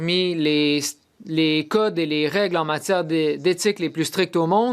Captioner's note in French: voix de l'interprète